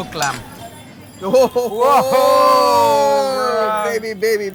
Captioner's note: both exulting